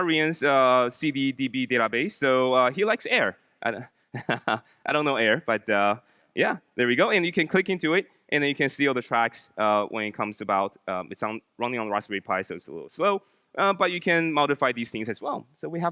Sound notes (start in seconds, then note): 4.2 laughs